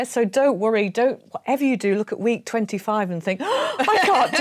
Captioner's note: gasp